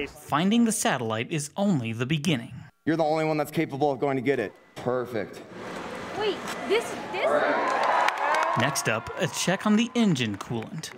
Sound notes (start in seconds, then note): 7.4 crowd cheers